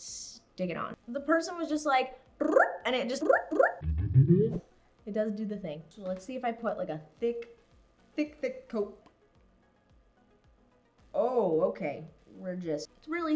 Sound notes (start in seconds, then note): 3.6 floop Sounds; 3.8 floop Sound